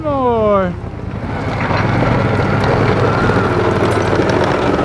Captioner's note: engine revving